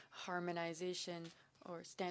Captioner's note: speaking French